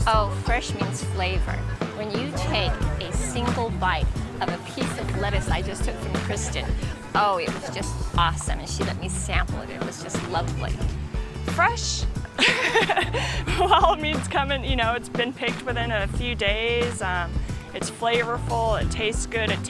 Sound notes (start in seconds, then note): 12.3 laughs